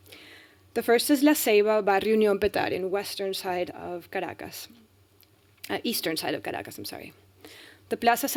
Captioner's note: speaking spanish